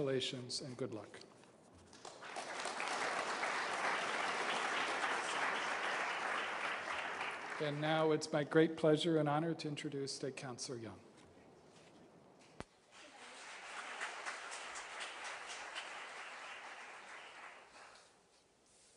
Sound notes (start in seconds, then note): 4.9 applause; 12.9 applause